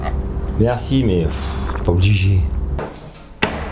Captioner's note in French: fffff